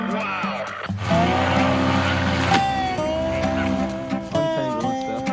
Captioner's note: engine whirring